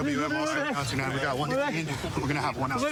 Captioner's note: excited chatter